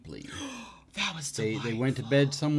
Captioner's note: gasps